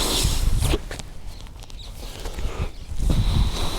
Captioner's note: breath